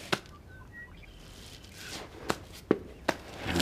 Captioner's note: birds chirping